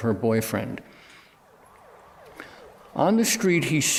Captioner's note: siren wailing